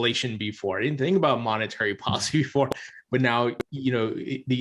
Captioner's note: chuckles